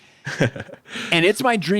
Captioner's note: chuckling